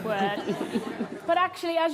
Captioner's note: audience laughs